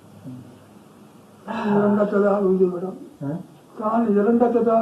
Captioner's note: sighs